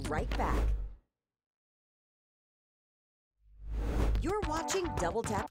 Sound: air whooshing

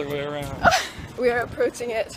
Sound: laughs

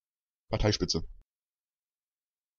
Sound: fast Pronunciation

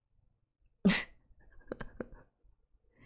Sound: laughs

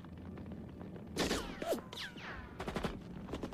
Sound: gunfire and bullets ricocheting

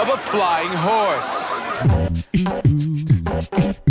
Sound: car alarms sounding, people yelling; upbeat music

